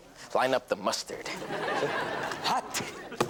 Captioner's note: audience laughs